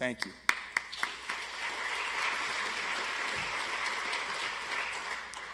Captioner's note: audience applauds